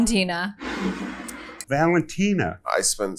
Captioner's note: bottle scrapes